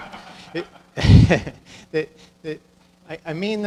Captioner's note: audience laughing; laughing